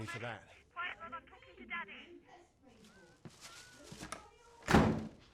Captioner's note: neighbor shouting in background